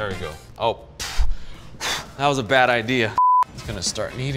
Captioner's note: exhaling; beeping